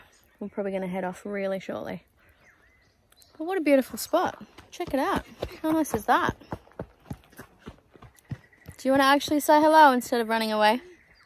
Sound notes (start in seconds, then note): 4.1 heavy foot falls from as she continues running